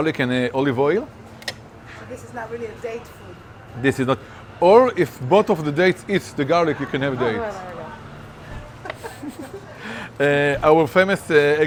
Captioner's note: chef laughing